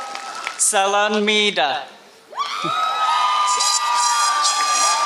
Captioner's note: applause